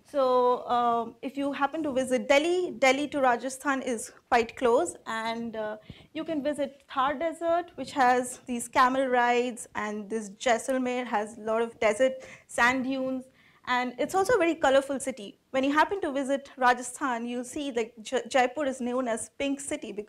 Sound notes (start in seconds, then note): none